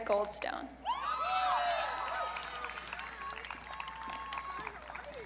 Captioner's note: audience cheering